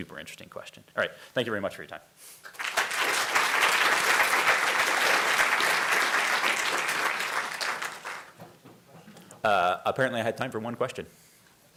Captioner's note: applause